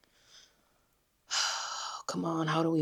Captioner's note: sighs